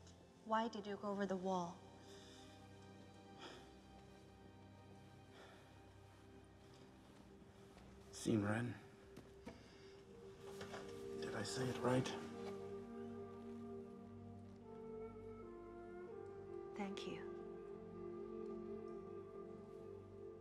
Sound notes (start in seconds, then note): 3.3 sighing; 6.7 speaking in mandarin